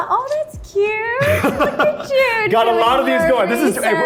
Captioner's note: laughs